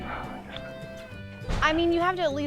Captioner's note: scoffs